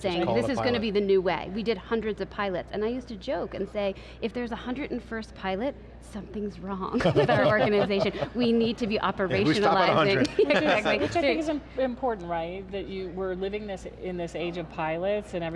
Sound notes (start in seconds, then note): 7.0 laughs; 10.5 laughs